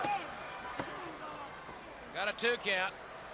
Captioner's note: crowd chatter